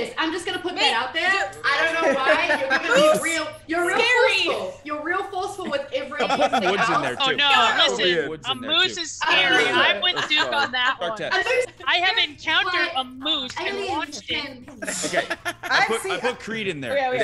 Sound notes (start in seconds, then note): 9.4 laugh